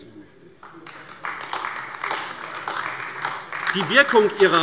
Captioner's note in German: Beifall AfD